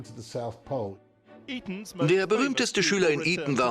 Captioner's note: voiceover